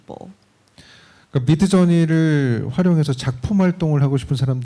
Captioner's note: speaking korean